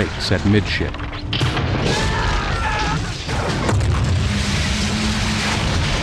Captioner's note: ship Groaning And Breaking Apart; ship Breaks and Crashes